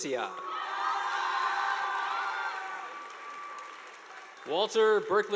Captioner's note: students cheering; audience applauding